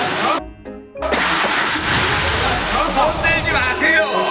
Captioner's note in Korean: 부글부글